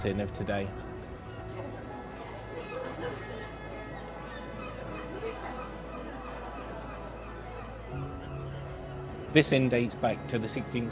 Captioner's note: street and people ambience